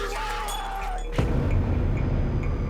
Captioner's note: Jonathan screams; dramatic music